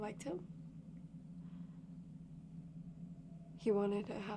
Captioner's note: tense music; crickets chirping